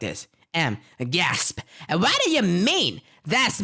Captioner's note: gasp